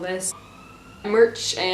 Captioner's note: sirens